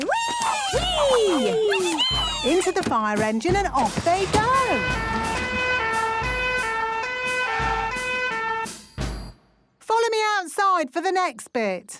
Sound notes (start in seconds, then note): 4.6 siren sounding